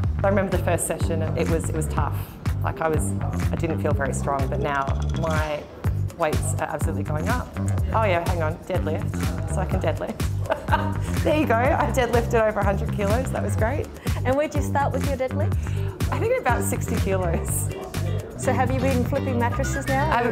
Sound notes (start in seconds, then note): 10.2 laughs